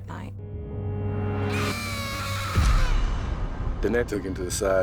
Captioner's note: screaming